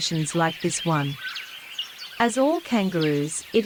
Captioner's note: birds' chirping